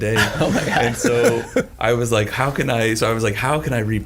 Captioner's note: all laughing